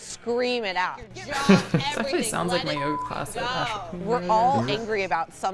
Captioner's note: laughs